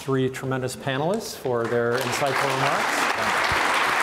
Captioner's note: audience applause